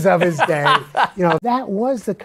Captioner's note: laughs